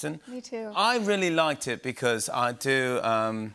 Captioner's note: British accent